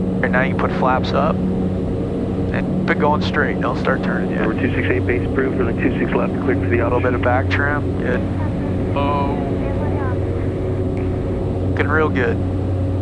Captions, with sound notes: and now you put flaps up and keep going straight don't start turning yet. [talking over radio] A little bit of back tramp. Yeah. Looking real good.